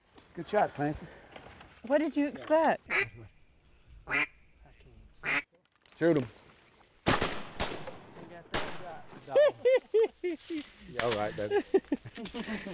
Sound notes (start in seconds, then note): 4.0 duck calls; 7.0 gunfire; 9.2 laughter and praise